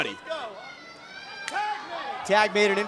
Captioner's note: claps